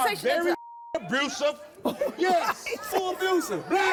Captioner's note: beep